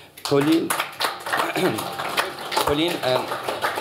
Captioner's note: applause